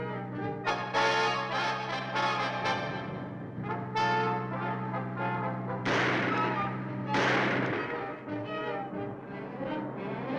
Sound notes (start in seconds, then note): 0.1 thrilling music; 5.8 guns firing